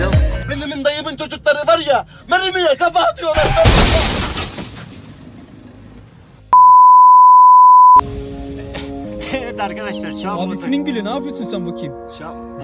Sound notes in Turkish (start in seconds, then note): 3.3 çarpışma sesi